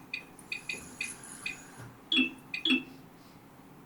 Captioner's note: pings